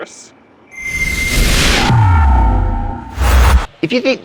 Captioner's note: buzzing sound